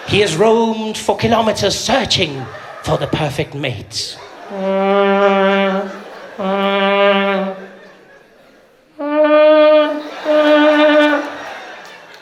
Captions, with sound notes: “He has roamed for kilometers searching” “for the perfect mate.” *sound of a vuvuzela* *sound of a vuvuzela*